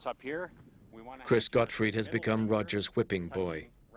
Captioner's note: voiceover